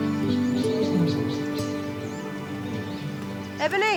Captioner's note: lion chortling